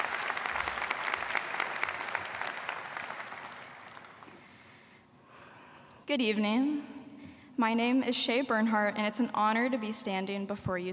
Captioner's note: applause